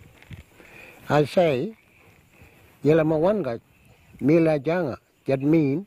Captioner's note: speaks Indigenous language